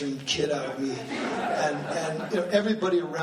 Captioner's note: laughing